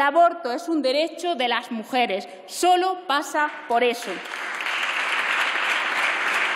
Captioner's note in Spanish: Aplausos